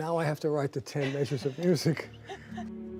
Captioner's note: laugher